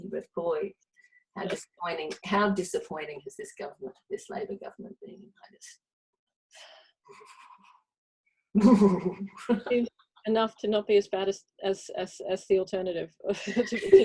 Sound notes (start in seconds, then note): 8.2 shudders